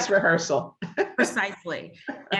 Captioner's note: laughs